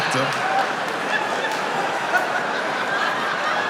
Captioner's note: laughing